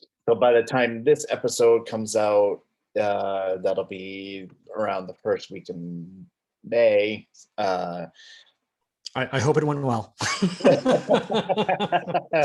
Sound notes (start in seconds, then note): 10.2 both laughing